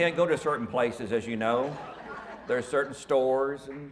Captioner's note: audience mumbles